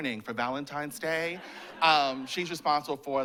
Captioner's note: laughter